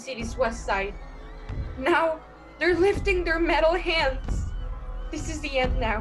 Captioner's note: alien warhorn, screams begin; sound of heat ray and fire throughout